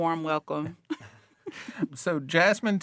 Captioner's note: all chuckling